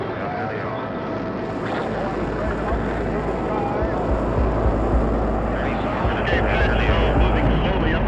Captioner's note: talking in background; rocket whooshing, man talking indistinctly